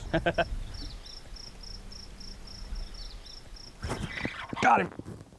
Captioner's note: laughs; crickets chirping